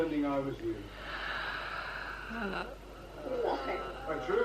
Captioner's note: sighs in 'can you believe these mfs